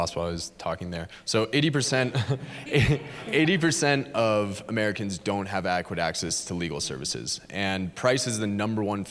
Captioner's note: chuckle